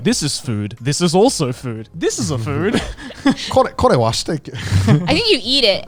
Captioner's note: laughs